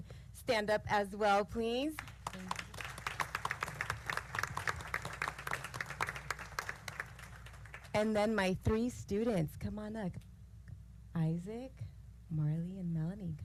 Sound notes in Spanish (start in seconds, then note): 1.9 aplausos